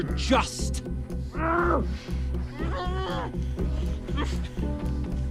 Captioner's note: hostages moan